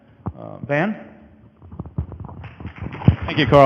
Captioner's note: audience applause; microphone noise